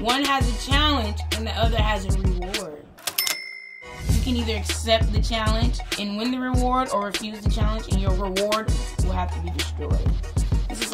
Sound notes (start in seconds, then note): 3.0 cash register rings